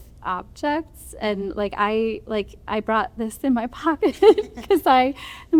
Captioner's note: laughter